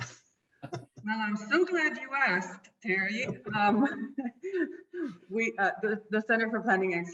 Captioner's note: laughing